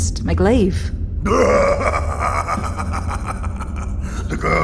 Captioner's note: laughing